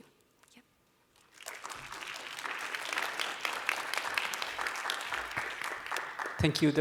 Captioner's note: applause